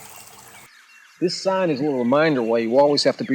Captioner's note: birds chirping and cawing